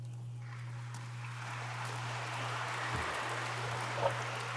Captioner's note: audience applauds